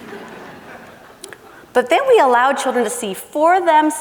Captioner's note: laughing